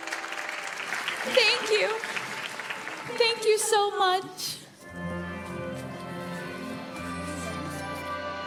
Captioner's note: applause; cheering